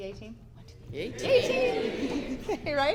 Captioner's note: crowd responds; giggles